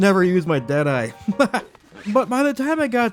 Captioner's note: laughs